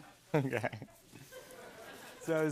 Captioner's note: chuckles